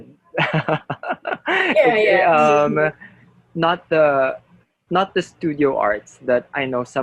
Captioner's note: laughter